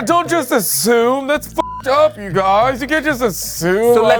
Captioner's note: beep